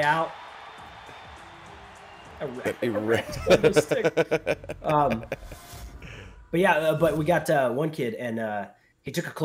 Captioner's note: laugh